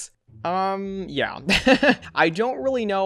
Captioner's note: laughs